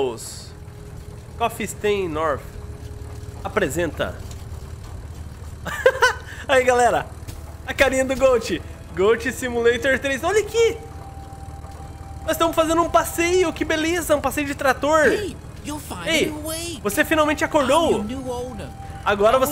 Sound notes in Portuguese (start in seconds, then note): 5.6 risos